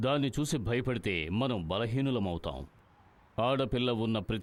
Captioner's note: none